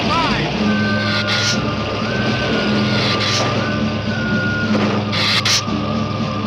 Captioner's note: dramatic music; lizard hissing